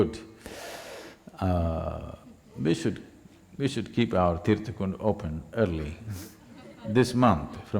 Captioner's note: few Laugh